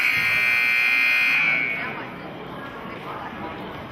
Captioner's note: buzzer sounding